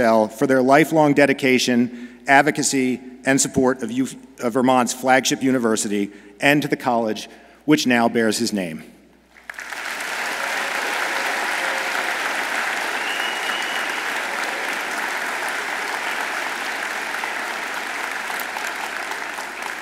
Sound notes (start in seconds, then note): 9.2 audience applauds